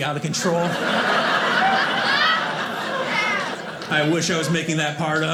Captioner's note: audience laughing